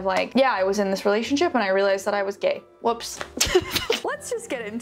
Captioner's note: laughs